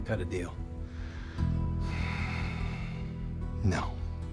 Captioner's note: sighs deeply; scottish accent